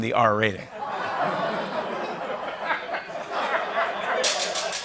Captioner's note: laughter